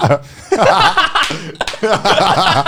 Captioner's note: laughing; clapping